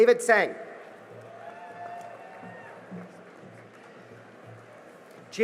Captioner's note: cheering and applause